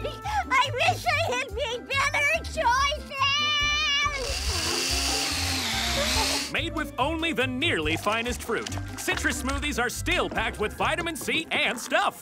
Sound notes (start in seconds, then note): 4.1 blender whirring